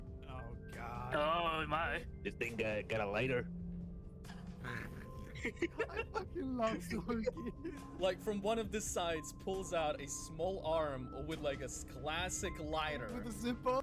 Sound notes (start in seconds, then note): 4.6 elderly snorting; 4.6 laughs